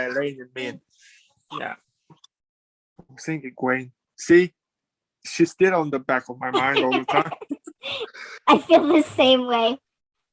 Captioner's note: laughs; laughs